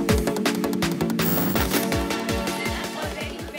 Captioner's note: Static